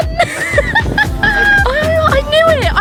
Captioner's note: laughs